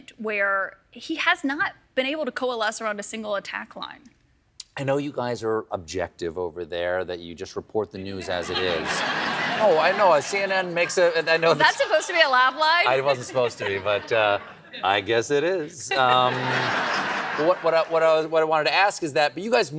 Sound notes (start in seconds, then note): 8.3 laughter